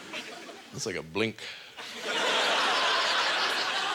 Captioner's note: audience laughter